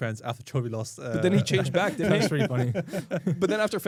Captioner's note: laughs